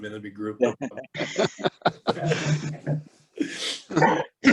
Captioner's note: laughing